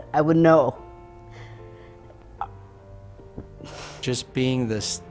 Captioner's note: sighs